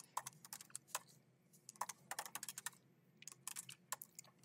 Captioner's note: keyboard clacking